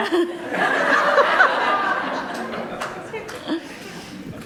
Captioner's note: group laughter